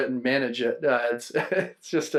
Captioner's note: laughs